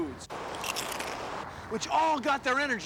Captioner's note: crunches